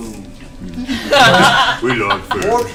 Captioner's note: all laugh